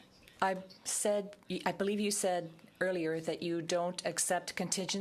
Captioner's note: speaking french